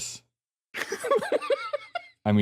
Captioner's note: laughs